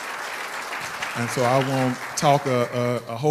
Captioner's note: applause